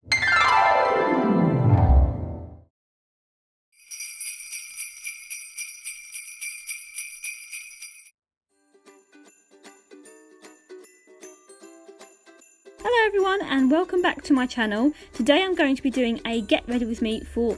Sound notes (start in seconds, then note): 0.1 intro music - descending piano slide; 3.7 sleigh bells